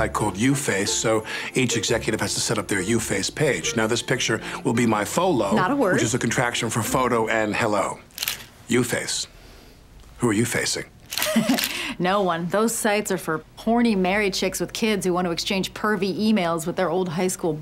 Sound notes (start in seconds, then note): 11.1 chuckles